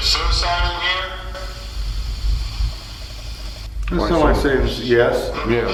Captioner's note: ghostly voice